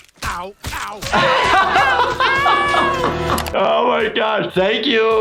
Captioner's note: laughing